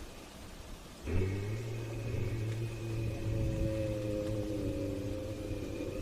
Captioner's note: far off yeti scream